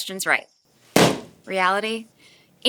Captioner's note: balloon pops